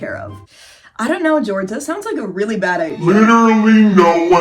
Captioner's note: slow inhale; loud distorted voice